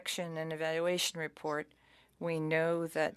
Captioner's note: speaking French